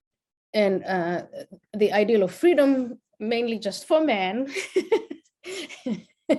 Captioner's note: laughs